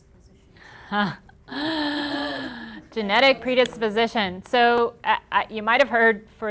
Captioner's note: laughing